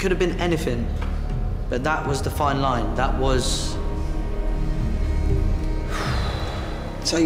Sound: exhales

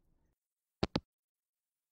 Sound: hangup

